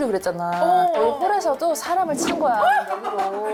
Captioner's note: sound effect of someone getting hit by noodles